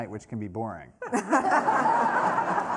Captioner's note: laughter